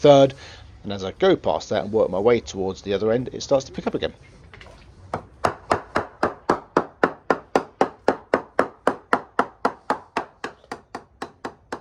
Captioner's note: tapping sounds